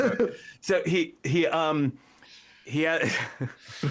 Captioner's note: laughing